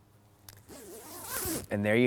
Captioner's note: zipper hissing